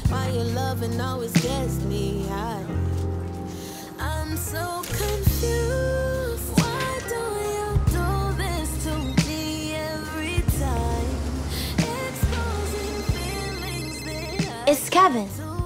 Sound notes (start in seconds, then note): 12.8 phone ringing